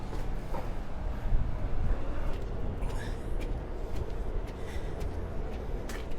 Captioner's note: footsteps